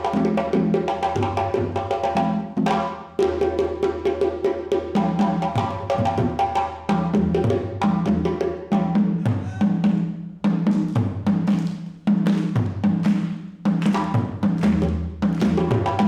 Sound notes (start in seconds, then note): 11.3 everyone clapping